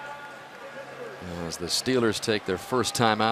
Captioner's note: pa announcement